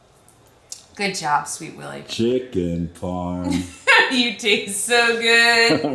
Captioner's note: laughs